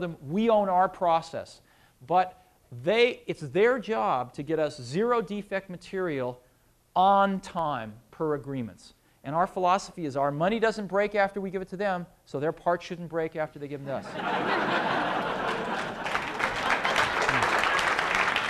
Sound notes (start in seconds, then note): 14.0 laughter; 15.1 applause